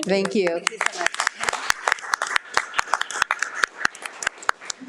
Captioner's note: group applauding